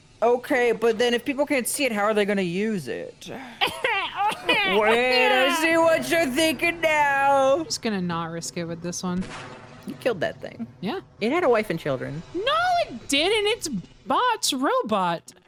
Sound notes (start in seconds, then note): 3.5 does a gross character laugh